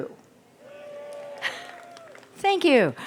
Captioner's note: audience cheers